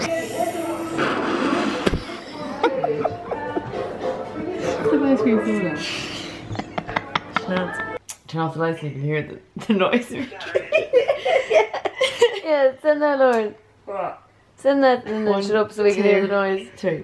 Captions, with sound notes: (slurping and laughter) - It's like ice cream soda. (laughter) - Send that one up so they can hear the noise.